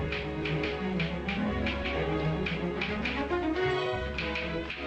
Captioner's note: telegraph clicking